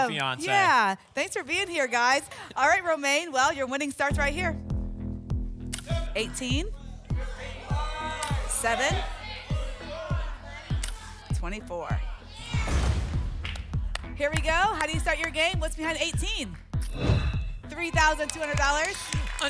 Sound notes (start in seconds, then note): 9.8 audience shouting numbers; 12.7 whoosh